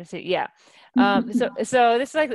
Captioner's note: laughing